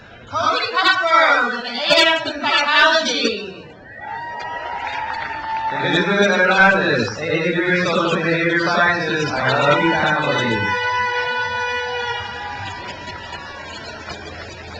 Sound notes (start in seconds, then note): 3.8 crowd cheers; 10.8 crowd cheers